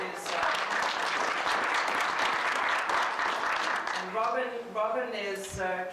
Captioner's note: applause